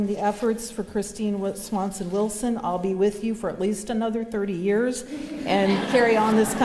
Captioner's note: laughter